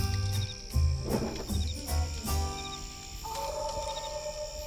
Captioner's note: fire crackling; small animals croaking; banner whooshing; wolf howling